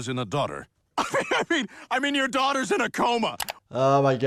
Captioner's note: laughs